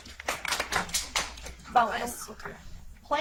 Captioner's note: audience applauds